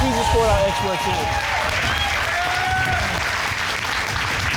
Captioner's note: applause